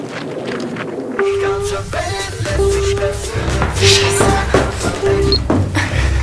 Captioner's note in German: Klingelton